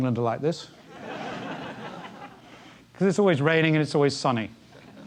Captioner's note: laugh